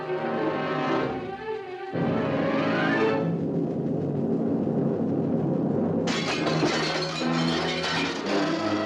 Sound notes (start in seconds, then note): 6.0 glass shatters